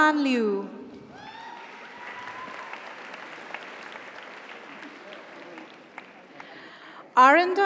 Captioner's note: audience cheers; audience applauds